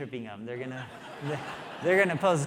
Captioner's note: audience laughing